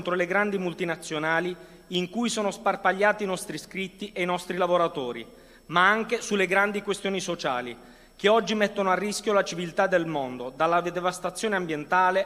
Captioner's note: speaking non-english language